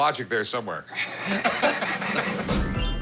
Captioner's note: laughter